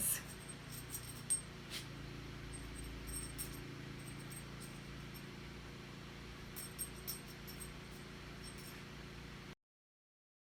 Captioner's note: dog tags jingle